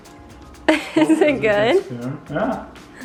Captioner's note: laughs